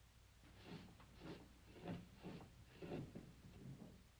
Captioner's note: glass scraping